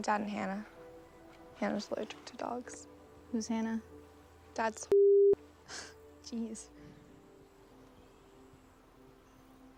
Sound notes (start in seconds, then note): 6.1 scoffs